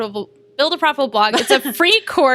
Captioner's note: laughter